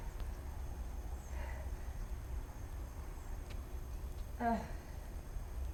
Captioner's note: birds chirping